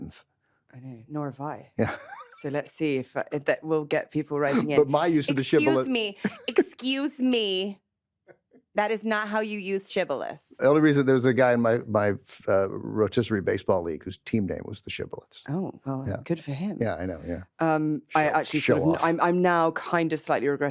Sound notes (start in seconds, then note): 1.8 laughs; 6.1 laughs